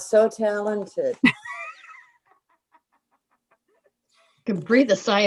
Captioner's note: laughing